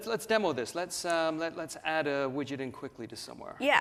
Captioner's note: none